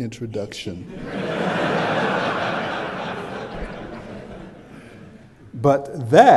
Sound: laughter

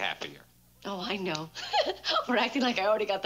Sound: giggles

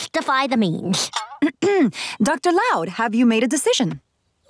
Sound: clearing throat

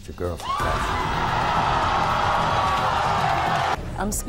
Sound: audience yells and boos

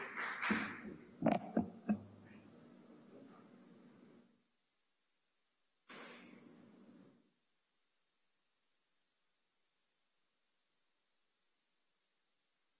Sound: applause

